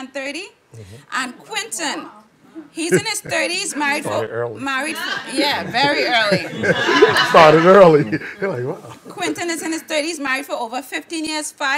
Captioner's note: laughing